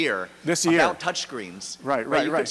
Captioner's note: voiceover